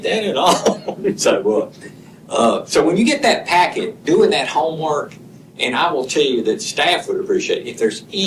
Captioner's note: laughter